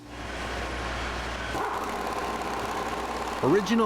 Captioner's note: drilling into barrel